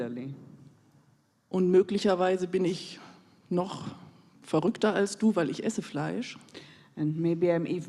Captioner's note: in German